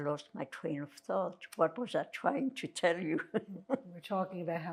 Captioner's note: laughing